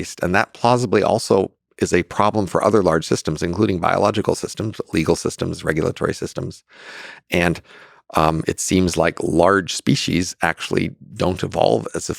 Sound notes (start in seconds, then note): none